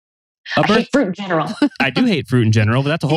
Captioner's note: laughs